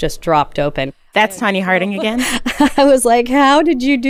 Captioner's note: laughs